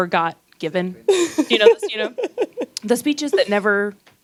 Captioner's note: laughing